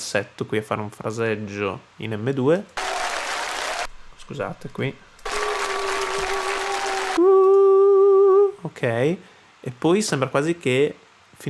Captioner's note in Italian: Applauso